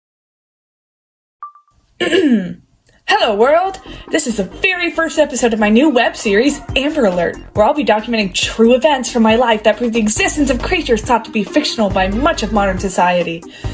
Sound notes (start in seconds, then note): 1.4 iPhone video recording beep; 2.0 clears throat